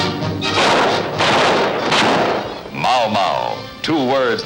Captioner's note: dramatic, exciting music; gunfire